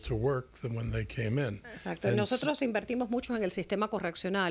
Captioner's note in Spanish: Hablando ingl\s